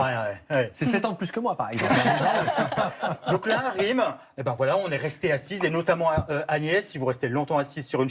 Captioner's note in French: rires